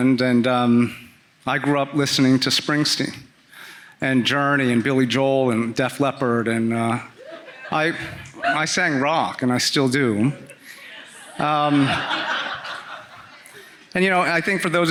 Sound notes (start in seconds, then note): 10.4 audience laughing